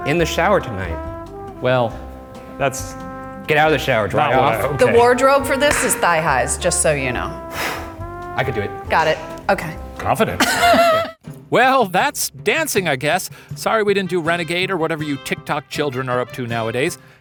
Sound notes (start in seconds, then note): 10.4 laughing